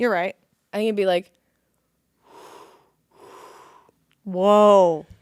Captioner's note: air whooshing